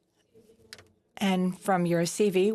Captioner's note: speaking French